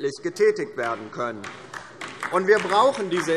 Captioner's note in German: Beifall DIE LINKE